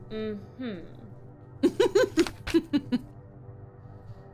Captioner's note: laughing